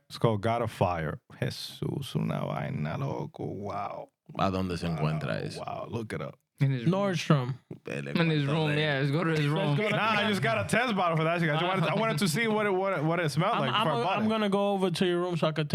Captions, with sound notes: It's called God of Fire. (Speaking In Spanish) I've done this in Cuentre. Look it up. In his room. In his room, yeah, it's good in his room. Nah, I just got a test bottle for that. I wanted to see what it smelled like. I'm gonna go over to your room so I could